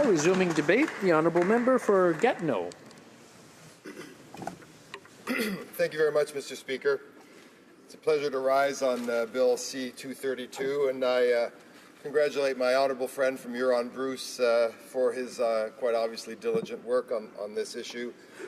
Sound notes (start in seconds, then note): 2.2 applause